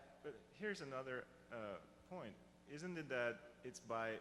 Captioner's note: voiceover